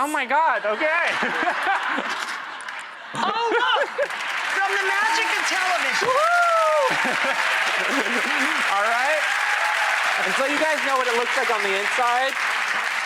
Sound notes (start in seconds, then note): 0.6 laughing; 6.2 applause and laughing